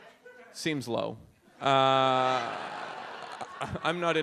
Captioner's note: audience laughs